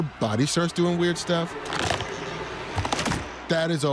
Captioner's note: bones cracking